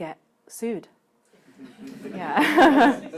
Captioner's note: laughter